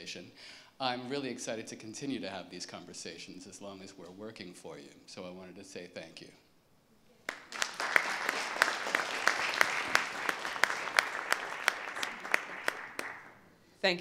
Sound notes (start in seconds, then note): 10.6 applause